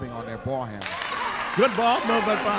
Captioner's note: clapping